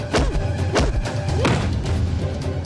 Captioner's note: none